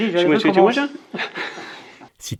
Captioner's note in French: Rires